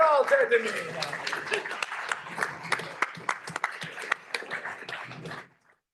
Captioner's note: applause